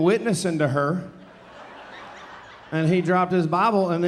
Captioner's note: audience laughing